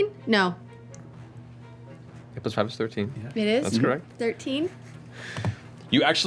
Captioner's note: none